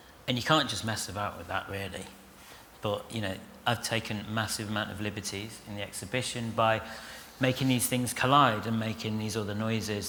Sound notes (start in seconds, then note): none